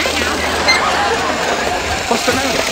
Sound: audience laughs

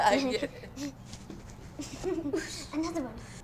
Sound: giggling

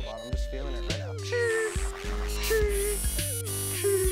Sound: beeping

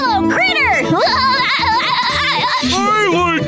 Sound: laughing

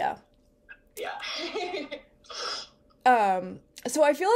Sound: laughs

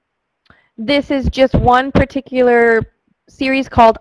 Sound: voiceover

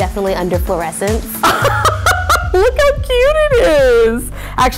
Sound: laughing

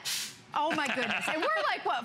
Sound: laughter

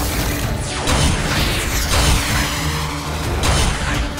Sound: sound effect playing

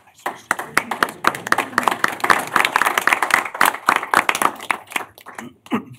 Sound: applause

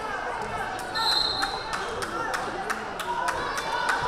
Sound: whistle blaring

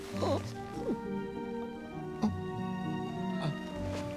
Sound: Peter groans

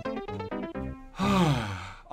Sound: sigh

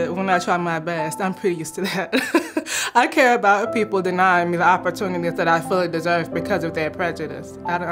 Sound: chuckle

